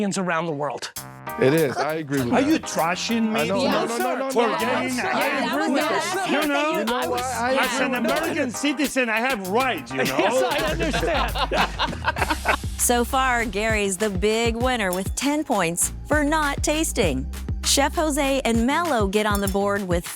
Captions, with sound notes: - It is. I agree with that. - Are you trashing me? - No, no, no, no. [indistinct chatter] - You know what? I agree with that. - As an American citizen, I have rights, you know. - Yes, I understand. [laughing] - So far, Gary's the big winner with 10 points for not tasting. Chef José and Melo get on the board with five points each,